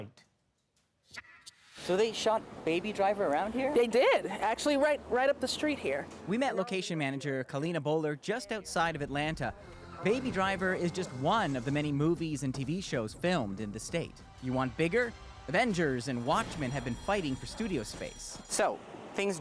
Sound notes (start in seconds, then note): none